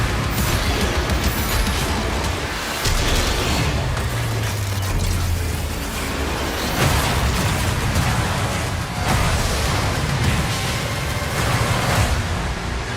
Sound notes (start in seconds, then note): 0.8 roaring